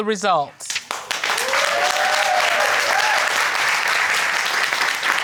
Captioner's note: audience applauding